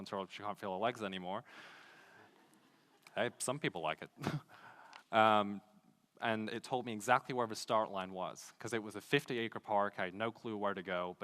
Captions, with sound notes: until she can't feel her legs anymore. (laughing) Hey, some people like it. And it told me exactly where the start line was 'cause it was a 50-acre park, I had no clue where to go,